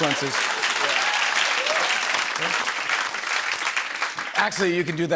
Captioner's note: applause